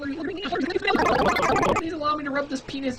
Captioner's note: glitchy noises varying in pitch